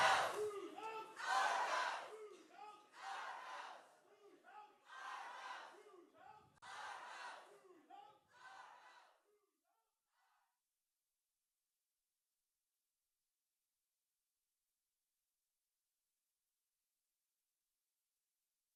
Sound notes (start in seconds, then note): 0.0 people shouting